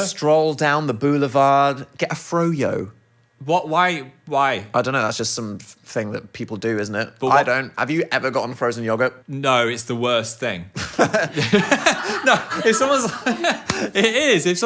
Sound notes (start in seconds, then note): 10.8 laughing